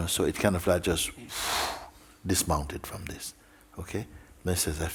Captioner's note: exhales